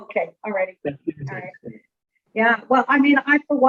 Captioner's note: mumbling